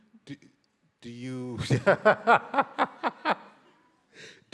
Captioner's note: laughs